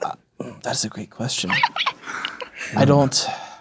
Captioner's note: laughing